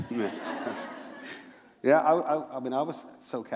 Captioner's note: laughter